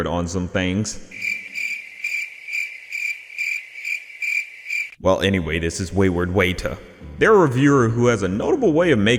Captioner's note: crickets sound effect